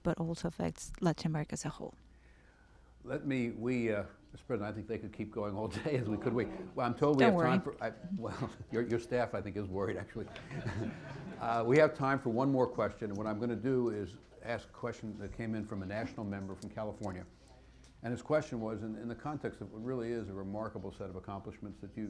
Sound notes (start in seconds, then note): 7.1 through translator; 10.2 laughter